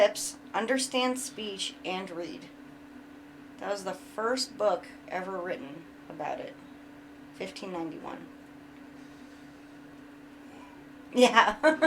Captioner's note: chuckles